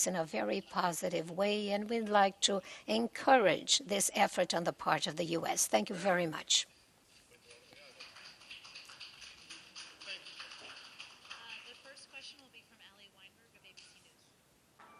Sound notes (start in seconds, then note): 7.4 applause